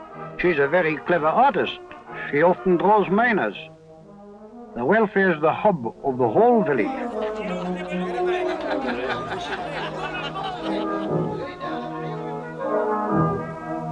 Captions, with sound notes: She's a very clever artist. She often draws miners. The welfare’s the hub of the whole village. [Laughter] [Brass Band Music]